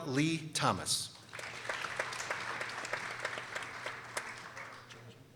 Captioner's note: people applauding